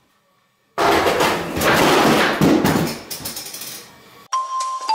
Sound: crash

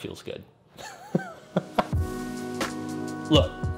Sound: laughs

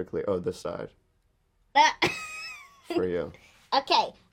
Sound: she laughs

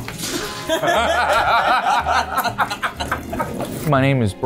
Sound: all laughing

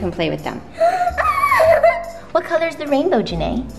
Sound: excited squeal

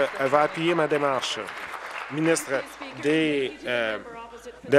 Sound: applause

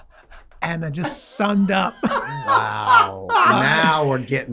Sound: Glenn laughing

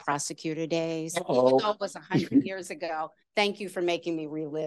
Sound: laughter

